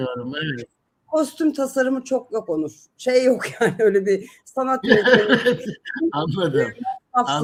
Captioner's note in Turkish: kahkaha